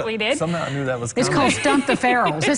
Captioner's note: laughter